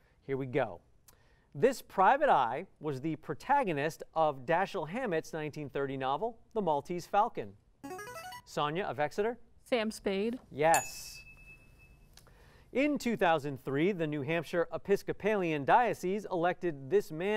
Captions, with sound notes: This private eye was the protagonist of Dashiell Hammett's 1930 novel, "The Maltese Falcon." [musical scale] Sonya of Exeter. Sam Spade. Yes. [ding] In 2003, the New Hampshire Episcopalian dioceses elected this man as their bishop,